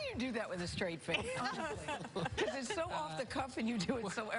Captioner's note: laughter